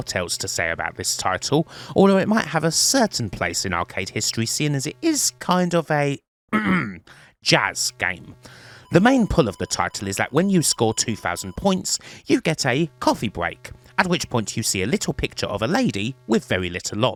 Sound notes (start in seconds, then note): 6.5 ahem